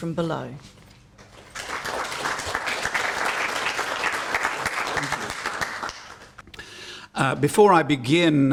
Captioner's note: applause